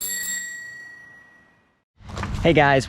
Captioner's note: bell rings